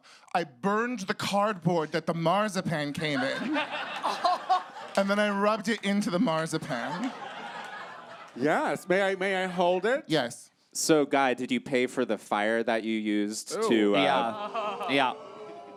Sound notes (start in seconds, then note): 13.6 audience oohs